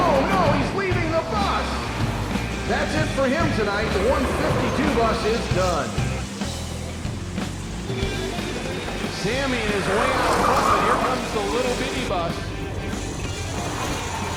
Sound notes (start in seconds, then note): 7.6 crowd cheering; 14.1 tires squealing